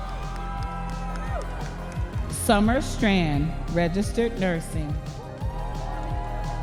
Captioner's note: audience members cheering